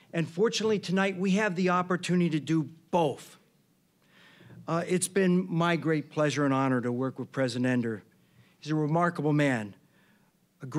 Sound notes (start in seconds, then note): none